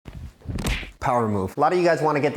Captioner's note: hand smacking